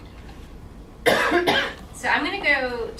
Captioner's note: coughing